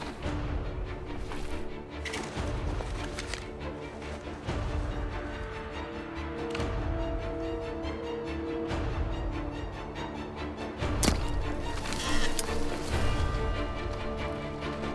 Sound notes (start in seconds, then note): 0.1 dramatic music; 10.9 dart gun shot